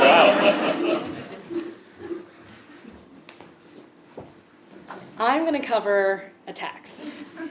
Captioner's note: laugh